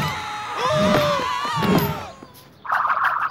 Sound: screaming

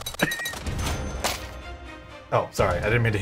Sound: money chinging

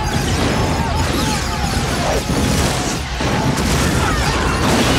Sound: fire clouds exploding; people shouting; shots firing

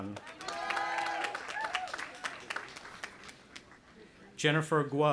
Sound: audience applauding and cheering

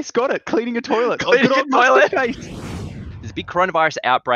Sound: both laughing

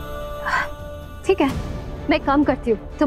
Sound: gasping

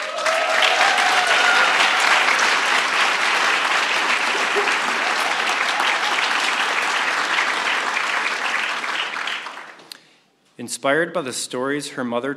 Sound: applause

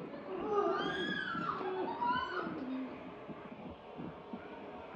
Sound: screaming and whimpering

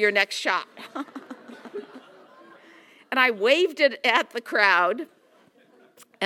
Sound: laugh

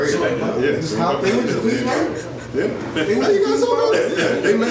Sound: audience talking

